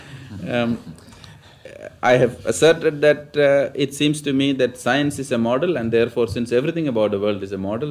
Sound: laughs

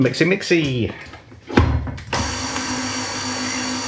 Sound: whirr

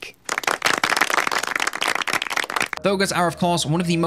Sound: all applauding

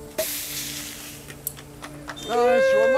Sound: champagne cork pops; cheers and applause

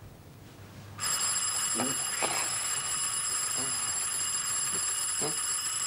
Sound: persistent ringing

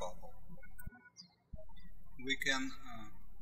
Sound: birds chirping

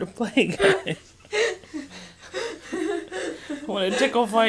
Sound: laughing

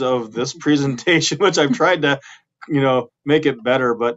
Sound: laughing

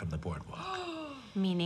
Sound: Beverly gasps

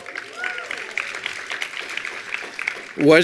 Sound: attendees applauding

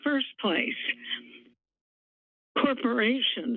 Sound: pause

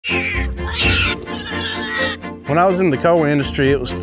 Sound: pigs squealing

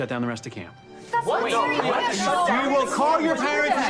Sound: group arguing

